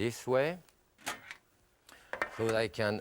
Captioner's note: pan clatters